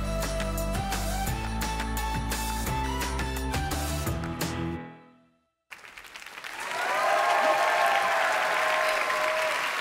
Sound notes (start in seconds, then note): 5.7 audience applause